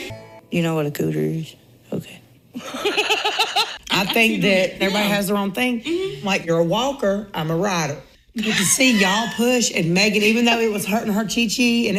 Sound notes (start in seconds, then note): 2.6 laughs heartily